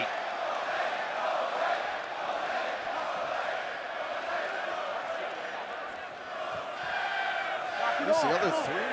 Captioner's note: crowd cheering